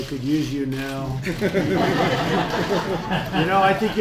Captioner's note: laughter